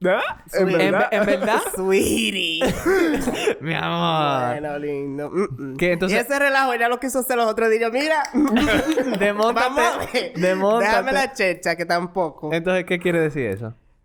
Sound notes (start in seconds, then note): 2.6 laughs